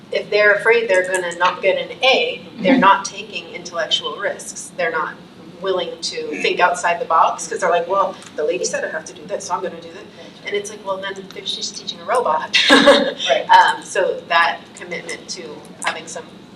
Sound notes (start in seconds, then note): 12.5 laughs